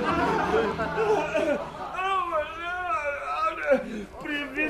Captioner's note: laughter